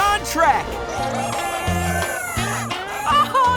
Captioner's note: chickens cheering